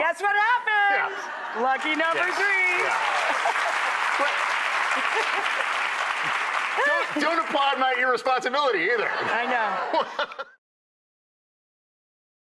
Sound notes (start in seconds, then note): 1.5 audience clapping; 9.0 laughing